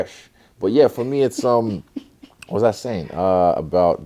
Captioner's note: laughs